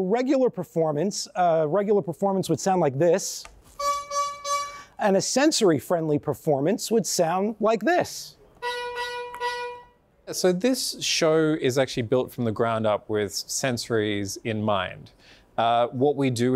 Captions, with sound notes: me at a regular performance. A regular performance would sound like this, [honking] and a sensory friendly performance would sound like this [honking]. >> So this show is actually built from the ground up with sensories in mind.